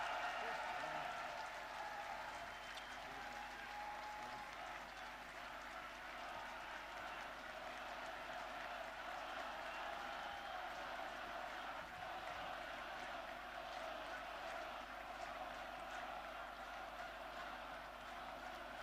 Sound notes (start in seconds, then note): 3.8 applause